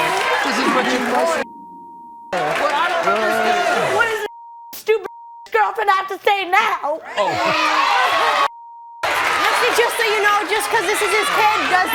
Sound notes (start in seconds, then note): 4.0 beep